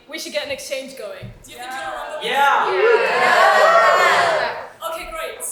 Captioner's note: audience shouts YES!